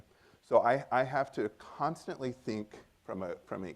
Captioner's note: none